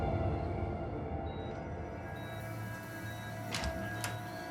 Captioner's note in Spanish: sonido de telemetría